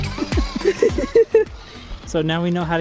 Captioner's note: laughing